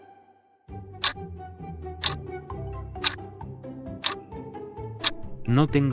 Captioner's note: FX - Clock Tick